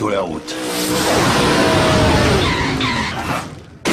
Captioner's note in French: Vrombissement, crissements